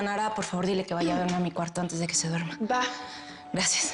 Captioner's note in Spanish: none